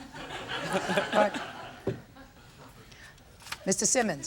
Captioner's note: everyone chuckles